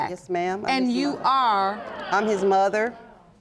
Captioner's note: audience murmuring